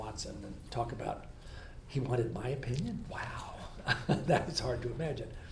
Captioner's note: laughs